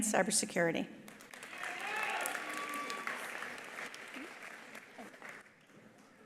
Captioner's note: attendees applauding; attendees cheering